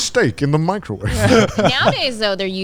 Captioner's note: all laughing